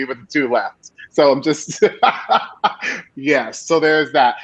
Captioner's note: laughing